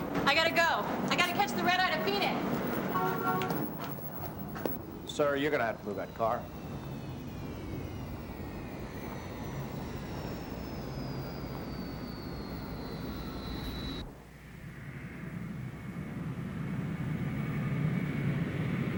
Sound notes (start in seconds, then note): 2.8 horn honking; 14.6 airplane rumbling